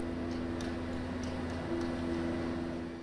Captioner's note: short clatter